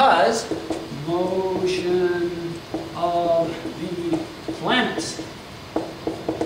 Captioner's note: marker clacks